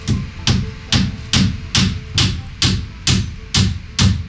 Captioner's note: hammering